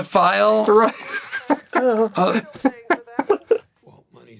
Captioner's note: laughter